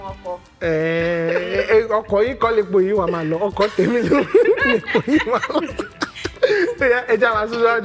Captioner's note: laughs